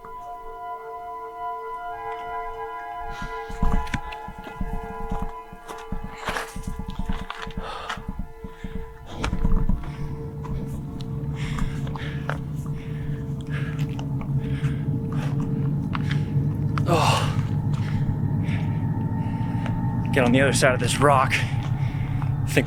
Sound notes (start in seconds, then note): 0.1 ominous music; 7.4 panting; 16.8 grunting